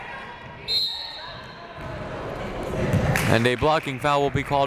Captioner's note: whistle blaring